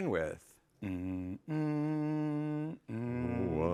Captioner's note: Hums NBC tones